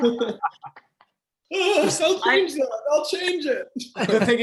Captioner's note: laughter